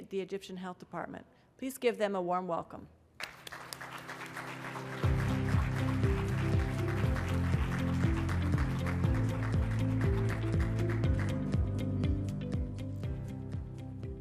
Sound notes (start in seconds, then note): 7.1 applause